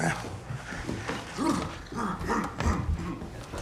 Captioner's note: Roman vocalizing